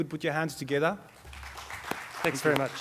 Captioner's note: audience clapping